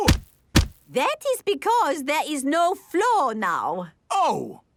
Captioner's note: thuds